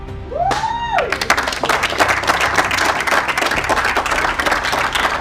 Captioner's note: audience cheering and applauding